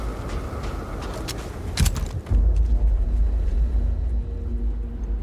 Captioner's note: wind whipping